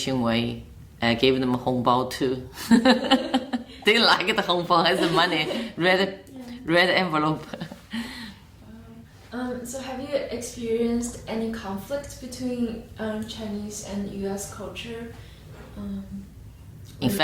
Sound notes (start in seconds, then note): 4.8 laughs